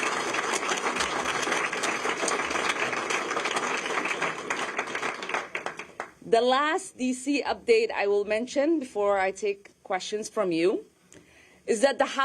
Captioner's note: applause